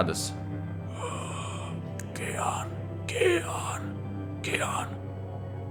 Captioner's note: grunts